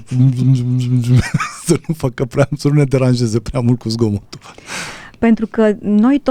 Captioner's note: laughter